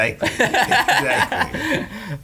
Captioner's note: laughing